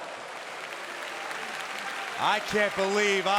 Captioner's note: crowd claps